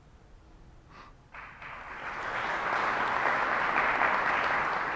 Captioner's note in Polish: oklaski